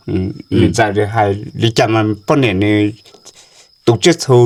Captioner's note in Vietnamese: hắng giọng